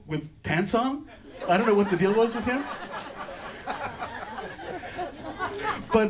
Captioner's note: audience laughter